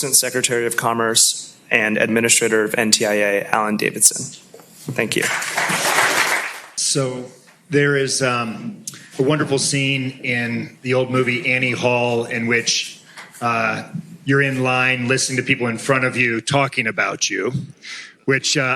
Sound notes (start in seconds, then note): 5.1 applause